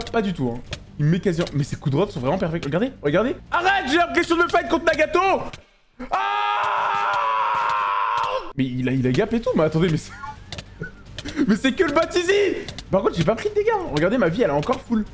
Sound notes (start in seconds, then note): 6.0 haaaaaaaaaaaaaaaaaaaaaaaa